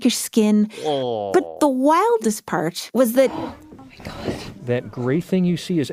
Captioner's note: gasps